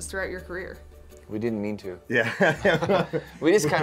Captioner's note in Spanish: risas